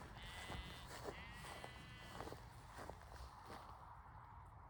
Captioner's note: sheep baa